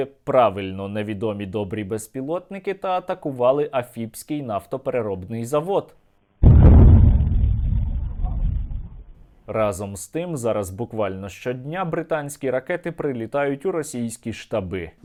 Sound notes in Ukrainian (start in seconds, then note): 6.4 звуки вибухів